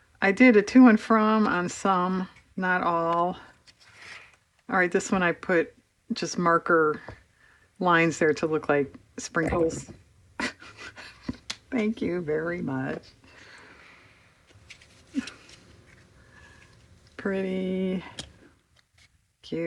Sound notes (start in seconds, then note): 10.4 laughs